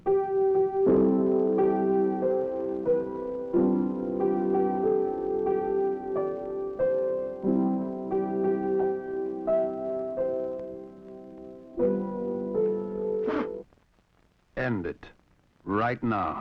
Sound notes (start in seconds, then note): 13.2 person blowing